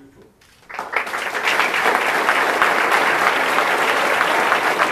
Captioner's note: audience applauding